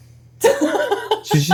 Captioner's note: laughing